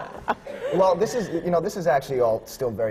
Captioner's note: laughter